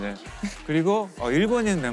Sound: chuckling

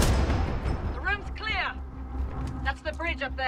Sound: radio

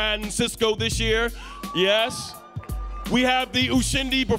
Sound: audience cheering

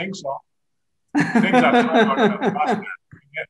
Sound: laughs

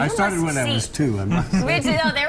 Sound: laughter

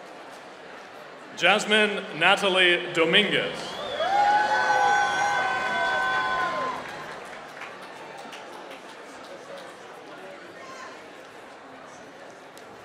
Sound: applause; applause

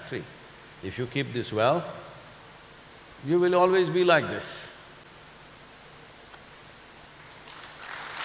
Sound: applause

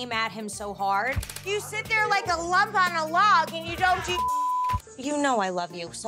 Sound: beep

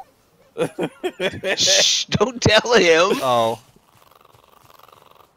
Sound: laughter

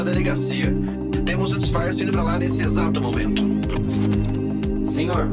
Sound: mechanical door noise opening

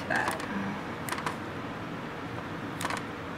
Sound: clipping sounds

